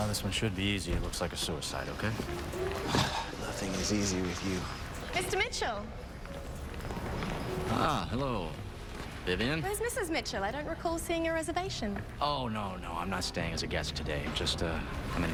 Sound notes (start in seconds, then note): 2.6 sighs